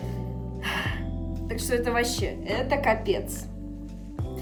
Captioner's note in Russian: вздох